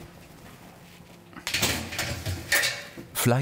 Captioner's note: clanking